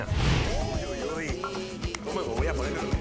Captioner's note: speaking Spanish; singing in Spanish